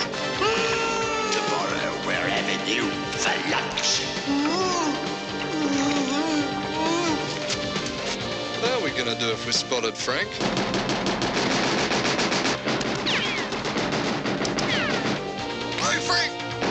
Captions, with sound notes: - [ Shouting ] - TOMORROW WE'RE HAVING YOU FOR LUNCH. [ Gasping ] WHAT ARE WE GONNA DO IF WE'RE SPOTTED, FRANK ? GO, FRANK !